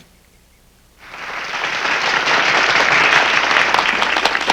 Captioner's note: applause